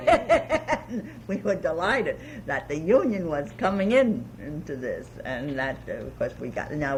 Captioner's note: laughs